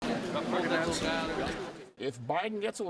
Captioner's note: people chattering